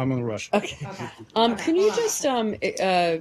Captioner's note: laughter